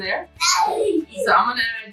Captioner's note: laughs